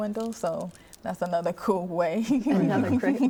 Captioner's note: laughing